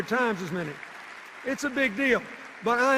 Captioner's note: cheers and applause